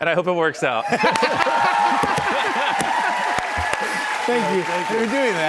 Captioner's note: cheers and applause